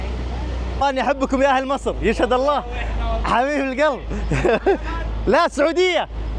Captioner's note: laughs